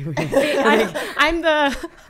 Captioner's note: laughing